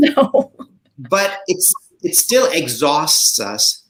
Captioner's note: chuckles